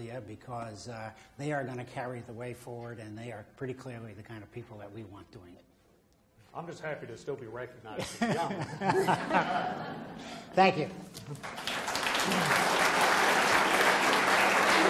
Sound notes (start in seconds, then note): 8.0 audience laughs; 11.3 audience applause